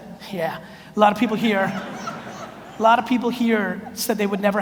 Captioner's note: audience laughs